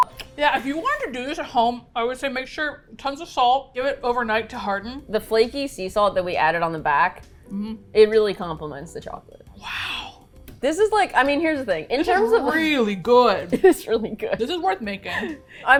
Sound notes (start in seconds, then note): 0.0 laughs; 9.2 whispers in disbelief; 13.5 laughs